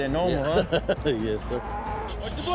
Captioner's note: chuckles; cattle mooing